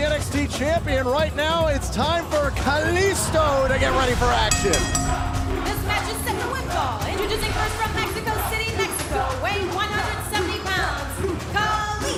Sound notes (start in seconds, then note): 3.9 bell ringing